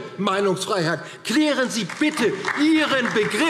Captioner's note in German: Beifall DIE LINKE - Zurufe AfD